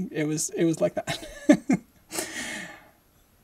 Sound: laughing

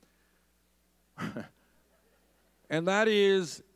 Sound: scoffs

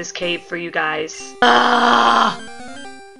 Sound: growls like a bear

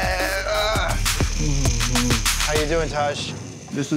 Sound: groans

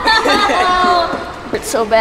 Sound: laughter

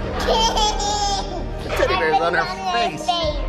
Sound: laughing

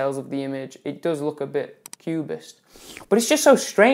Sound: schlurp

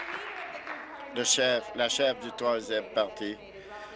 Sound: applause

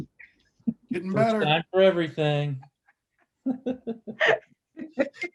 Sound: laughter

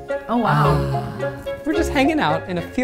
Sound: beep; man sighs

